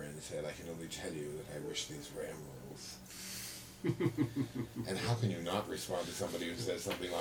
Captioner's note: laughter